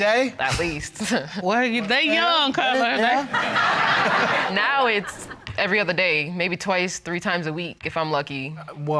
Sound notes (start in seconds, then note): 1.1 laughs; 3.5 audience laughing